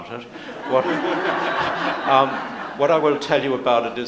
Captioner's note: audience laughs